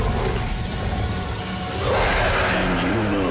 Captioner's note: roaring